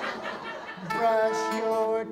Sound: audience laughs

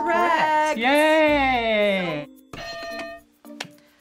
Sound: hitting bell

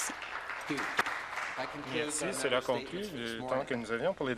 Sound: applause

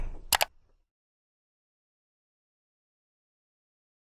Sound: mouse clicks

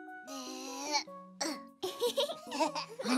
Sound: giggles

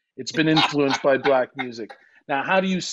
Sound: laughing

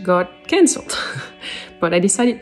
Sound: chuckles

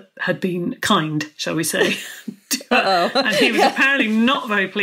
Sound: laughs

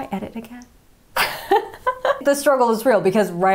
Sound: laughing

